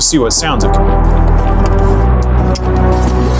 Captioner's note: camera noises; theme music builds; zipper closes; theme music builds